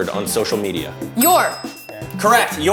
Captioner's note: bell rings